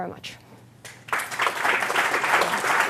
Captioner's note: applause